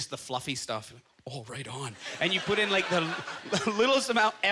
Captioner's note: audience laughter